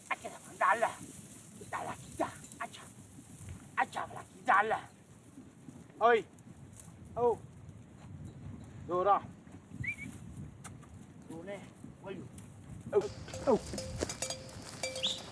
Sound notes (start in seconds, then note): 3.8 animal calls; 9.8 man whistling; 10.0 animal calls